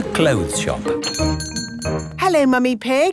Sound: doorbell chiming

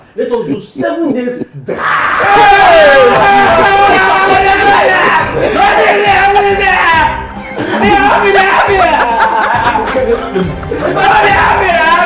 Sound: Mark, shouting and crying

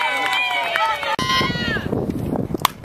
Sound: crowd cheers

